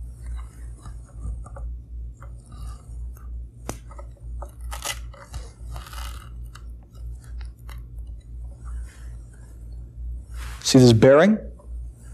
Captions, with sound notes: (peeling) See this bearing?